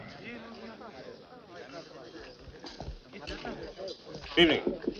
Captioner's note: people chattering